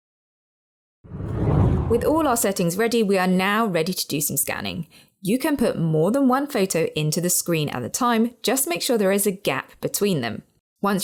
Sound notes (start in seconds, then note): 1.0 video effect whooshes